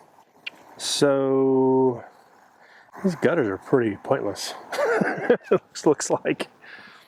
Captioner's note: laughing